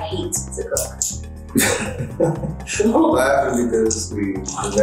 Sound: laughs

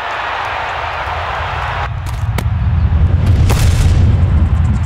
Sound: crowd cheering

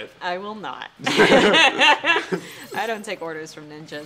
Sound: laughter

